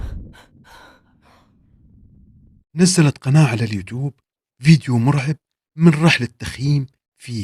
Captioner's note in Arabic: تنهّد